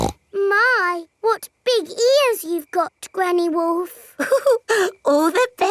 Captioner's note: snorts; chuckles